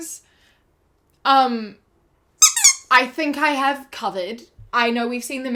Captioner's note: squeak squeak